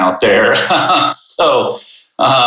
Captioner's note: chuckles